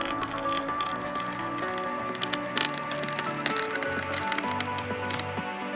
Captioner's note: peeling sound